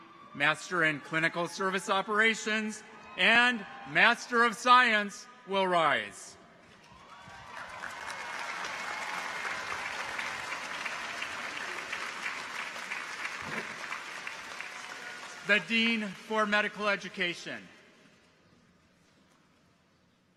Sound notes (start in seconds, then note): 6.8 people cheer; 6.9 audience applauds